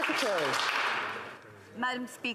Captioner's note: some Applause